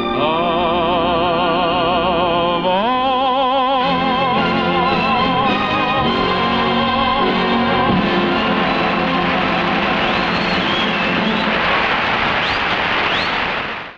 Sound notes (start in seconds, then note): 3.8 grand orchestral music; 9.5 audience applause